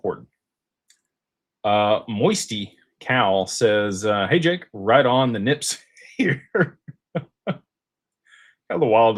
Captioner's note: laughter